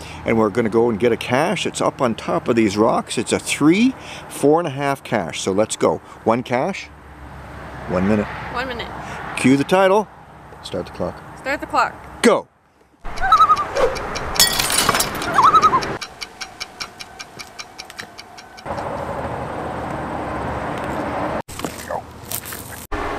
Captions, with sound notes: We're gonna go and get a cache. It's up on top of these rocks. It's a 3-4.5 cache; so let's go. One cache. One minute. -One minute. -Cue the title. Start the clock. -Start the clock. -Go! [loon call] [loon call]